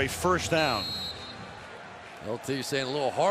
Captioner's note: whistle